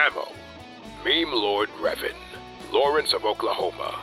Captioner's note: none